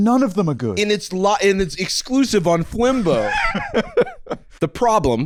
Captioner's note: laughs